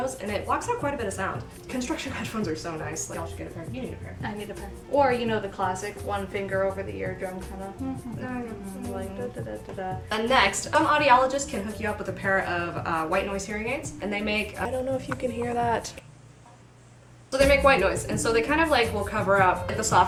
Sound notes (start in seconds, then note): 9.6 hums; 16.6 hearing aids hiss